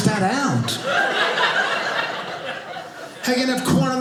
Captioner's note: audience laughing